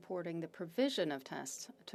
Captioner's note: speaking French